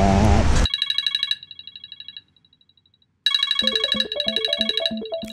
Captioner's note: alarm Ringing